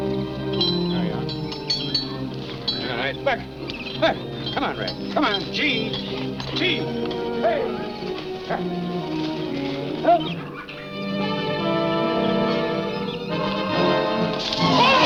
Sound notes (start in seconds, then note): 3.4 man shouts; 7.4 man shouts; 11.9 dramatic music